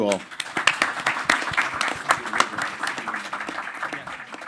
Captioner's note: crowd applauding